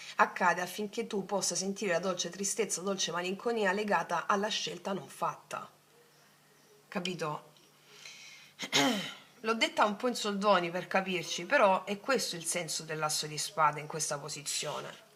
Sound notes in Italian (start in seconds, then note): 8.6 schiarire la voce